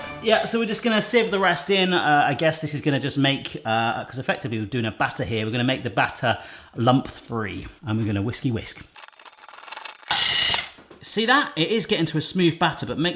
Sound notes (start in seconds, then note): 8.9 whisk motor grinding